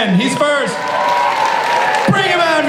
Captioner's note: applause and cheering